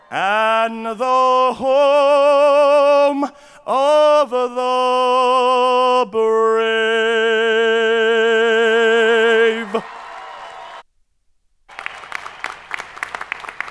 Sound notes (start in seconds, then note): 9.7 crowd applauding